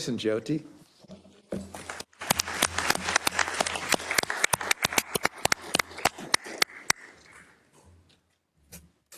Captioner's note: applause